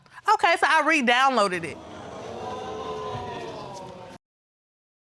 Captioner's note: audience groaning